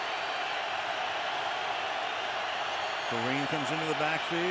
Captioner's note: crowd cheering